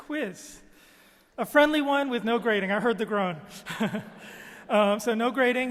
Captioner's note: laughs